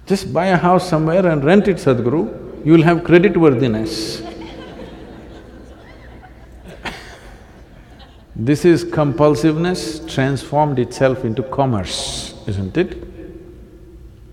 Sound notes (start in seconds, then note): 6.8 laughter